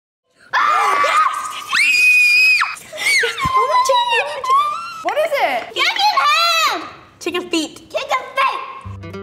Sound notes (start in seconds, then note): 0.5 girls screaming; 2.2 squealing excitedly